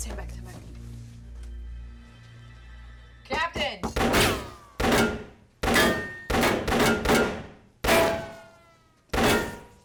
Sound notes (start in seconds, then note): 5.6 gunfire